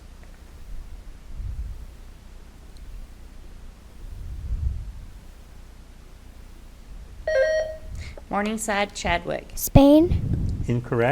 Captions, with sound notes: (buzzer beeps) - Morningside, Chadwick. - Spain. - Incorrect